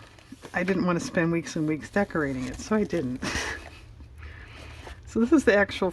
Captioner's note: laughs